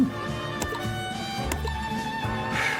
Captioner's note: click